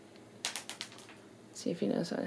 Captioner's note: treat clatters